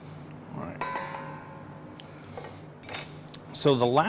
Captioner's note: utensil banging